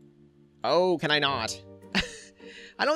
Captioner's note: chuckles